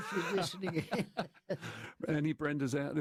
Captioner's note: laughter